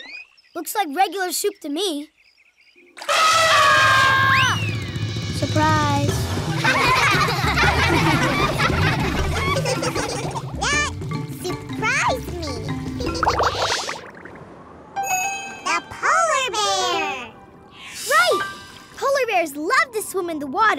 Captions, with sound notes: Looks like regular soup to me. [elephant horn] Surprise! [laughing] That surprised me! The polar bear! Right, polar bears love to swim in the water,